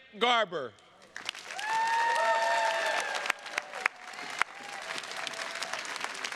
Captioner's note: attendees cheers and claps